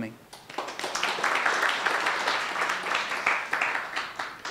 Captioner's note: applauding